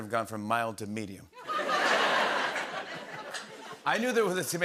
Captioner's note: laughter